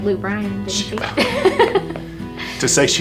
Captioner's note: laughs